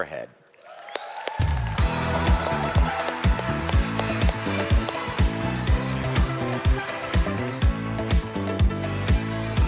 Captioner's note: เสียงปรบมือ